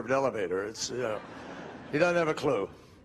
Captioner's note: crowd laughing